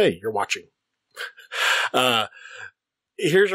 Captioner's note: chuckle